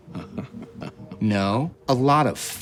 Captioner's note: Chuck chuckling